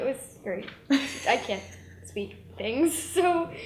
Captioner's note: laughs